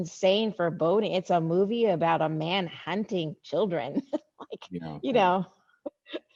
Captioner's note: laughs